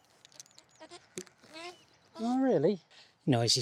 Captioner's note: duck quacking